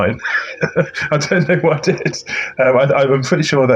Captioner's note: laughs